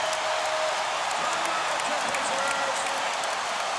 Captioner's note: cheering and applause